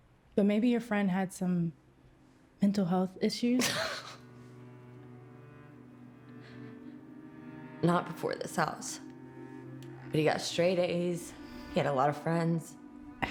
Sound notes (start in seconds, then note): 3.6 Claire scoffs; 4.5 somber music